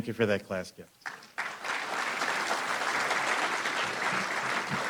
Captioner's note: applause